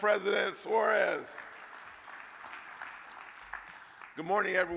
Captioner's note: audience claps